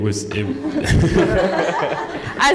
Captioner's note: laughter